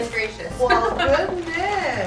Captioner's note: laughs